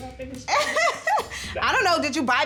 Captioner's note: laughing